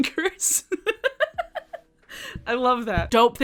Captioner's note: chuckles